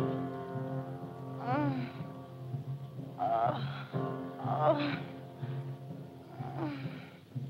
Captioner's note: moaning